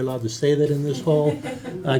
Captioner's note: laughter